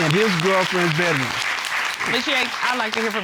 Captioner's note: applause